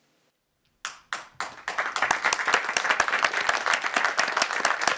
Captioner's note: audience clapping